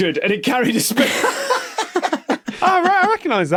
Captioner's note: laugh